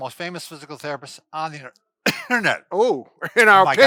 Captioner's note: coughs